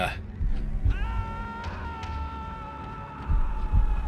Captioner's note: Max screams as he falls into the void